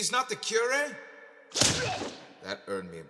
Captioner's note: sound of a punch landing